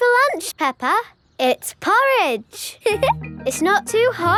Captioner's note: giggles